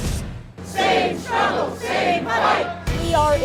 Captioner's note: crowd